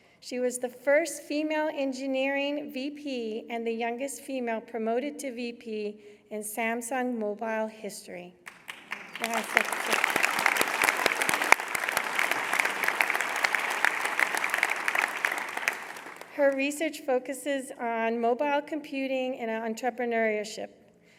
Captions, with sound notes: She was the first female engineering VP and the youngest female promoted to VP in Samsung mobile history. [ Applause ] Her research focuses on mobile computing and entrepreneurship.